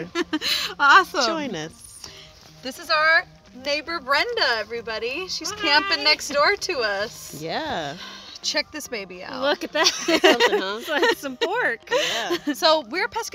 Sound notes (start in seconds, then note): 0.0 laughs; 9.8 laughs; 12.3 laughing